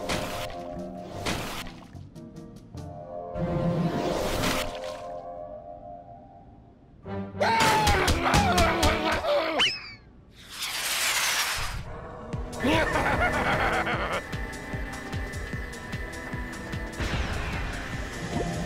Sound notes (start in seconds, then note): 7.1 upset growling; 12.5 evil laughing; 17.7 suction noises